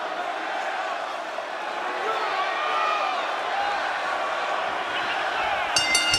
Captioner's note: crowd cheering; crowd chatter